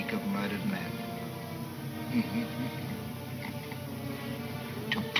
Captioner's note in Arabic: يضحك